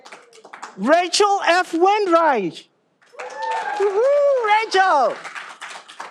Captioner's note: all applauding